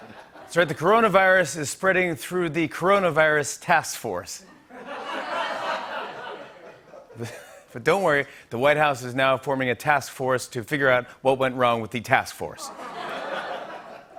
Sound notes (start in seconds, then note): 0.0 laughter; 4.4 laughter; 12.6 laughter